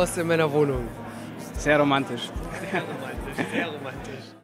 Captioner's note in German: lachen